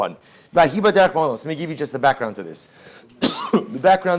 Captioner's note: Hebrew